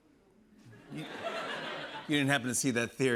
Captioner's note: laughter